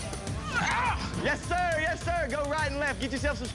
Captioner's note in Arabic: تذمر